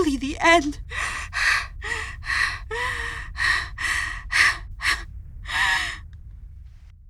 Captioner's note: NEWS ANCHOR 2 keeps crying